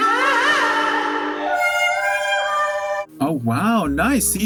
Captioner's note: cartoon Western sound effects